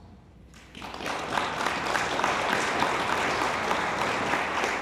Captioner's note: attendees applauding